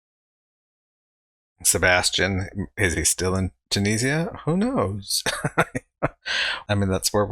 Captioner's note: laughing